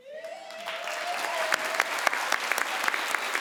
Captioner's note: crowd applauds